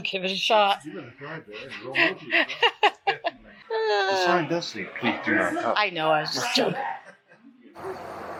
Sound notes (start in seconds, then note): 0.1 background talking; 1.6 laughing